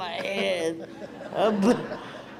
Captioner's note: crowd laughs